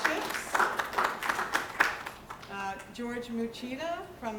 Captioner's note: applause